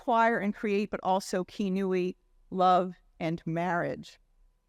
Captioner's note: speaking in Hebrew language